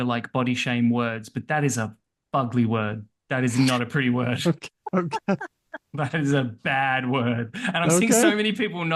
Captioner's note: laughter